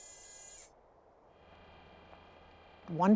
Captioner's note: rover buzzes; rover drives away